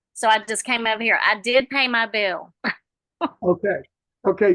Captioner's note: chuckles